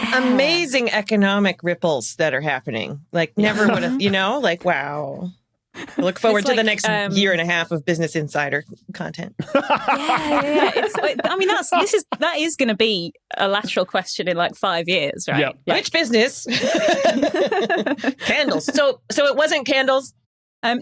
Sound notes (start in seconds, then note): 9.4 laugh; 16.4 guests laughing